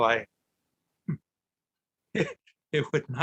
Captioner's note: laughing